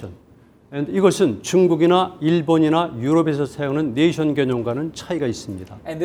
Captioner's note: speaking in Korean